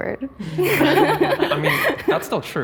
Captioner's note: group laughing